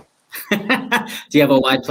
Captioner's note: laughs